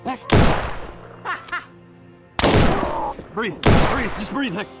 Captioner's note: gunshots banging; bounty hunters chuckling